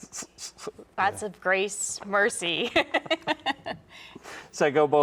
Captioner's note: laughing